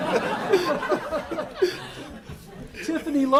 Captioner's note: laughter